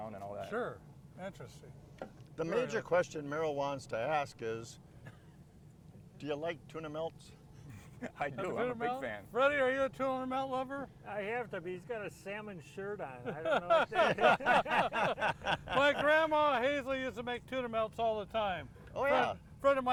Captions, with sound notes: - Sure. Interesting. - The major question Merrill wants to ask is, do you like tuna melts? - I do. - Tuna melts? Freddie, are you a tuna melt lover? - I have to be, he's got a salmon shirt on. I don't know what to say. (others laughing) - My grandma Hazel used to make tuna melts all the time. - Oh, yeah.